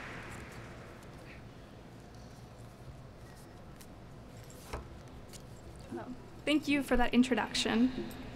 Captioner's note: applauding